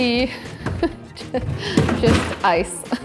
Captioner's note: laughs